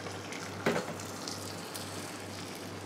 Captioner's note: sizzle